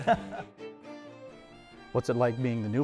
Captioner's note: laughter